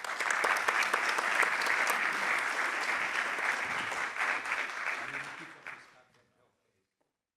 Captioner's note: applause